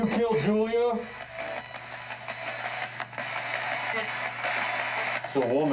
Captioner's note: static from spirit box